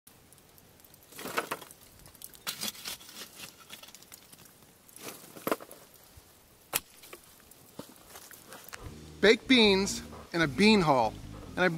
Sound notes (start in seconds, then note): 0.7 coal tumble together; 0.7 fire crackles; 2.0 shovel scrapes coals